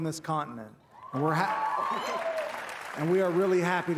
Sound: crowd cheering

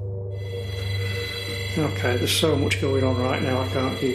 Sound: alarm blaring

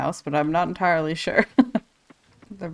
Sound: laughs

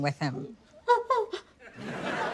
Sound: whimpering

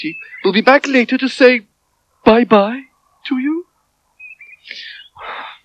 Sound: Toby Sighs

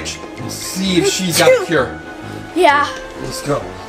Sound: sneezing

